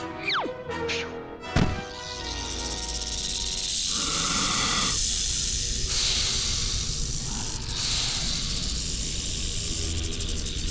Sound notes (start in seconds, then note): 1.1 rattling; 3.3 hissing; 7.2 snakes hissing